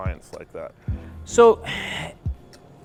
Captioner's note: sighs